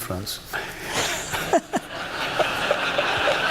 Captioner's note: laughter